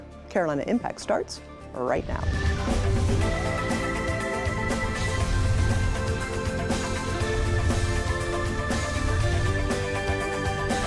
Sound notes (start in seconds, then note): 3.3 upbeat music; 7.1 air whooshing